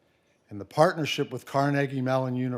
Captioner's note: none